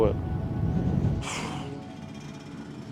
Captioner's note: exhales